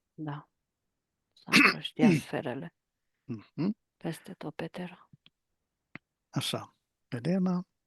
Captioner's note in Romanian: voce dreasă